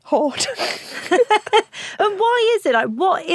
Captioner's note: laughs